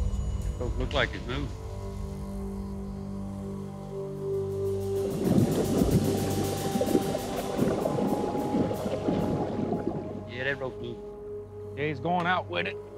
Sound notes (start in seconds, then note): 4.7 water bubbling